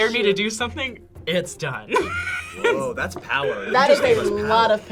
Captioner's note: laughs